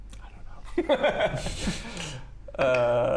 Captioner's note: nervous giggle